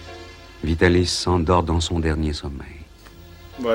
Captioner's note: voiceover